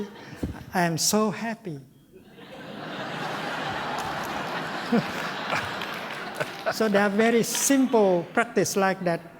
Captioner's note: laughter